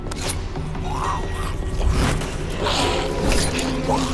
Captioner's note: zombie growling